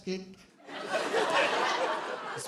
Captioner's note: laughter